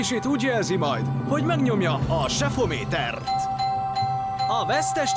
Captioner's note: dinging